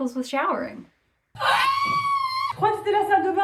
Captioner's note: screams